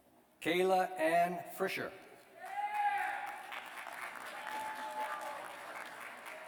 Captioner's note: cheers and applause